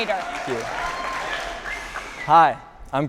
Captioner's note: audience applauding